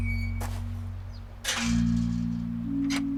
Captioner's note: gate closes